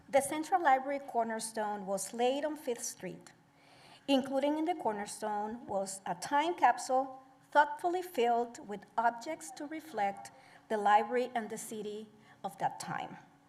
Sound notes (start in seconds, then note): none